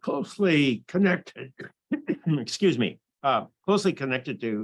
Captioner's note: coughs